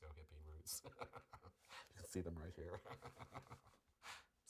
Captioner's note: laughs